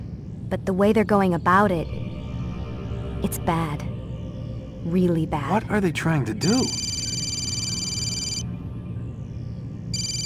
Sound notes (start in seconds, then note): 6.6 phone rings